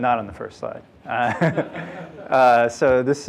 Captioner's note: laughter